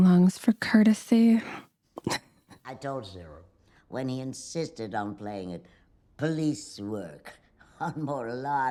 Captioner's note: laughter